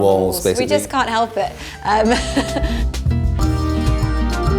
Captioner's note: chuckles